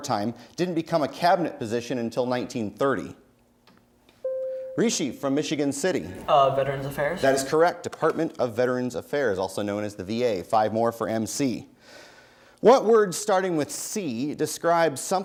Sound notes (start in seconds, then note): 4.3 bell rings